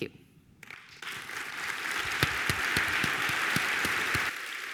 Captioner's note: audience applauds